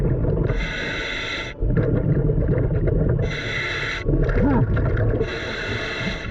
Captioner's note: breathing heavily through regulator